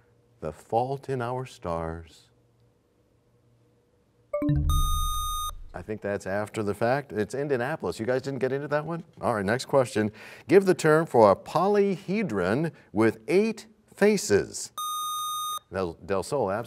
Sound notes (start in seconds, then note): 4.4 bell chimes, time expires; 4.6 buzzer sound